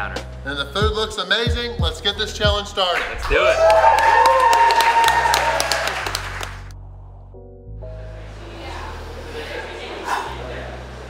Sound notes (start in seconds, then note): 2.9 cheering & Clapping